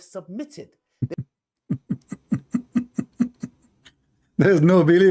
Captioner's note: Ketawa